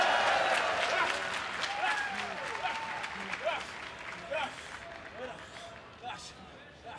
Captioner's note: cheers & applause